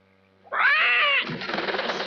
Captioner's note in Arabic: صيحات البومة